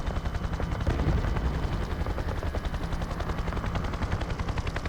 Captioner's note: guns firing